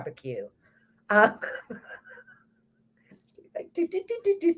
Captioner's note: both laughs